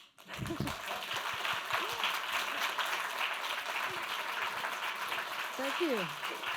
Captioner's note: applause